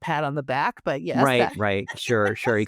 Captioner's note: laughs